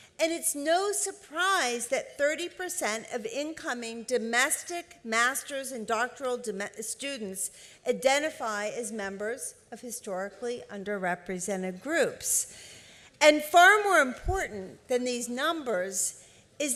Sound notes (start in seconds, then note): none